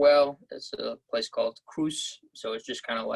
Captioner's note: french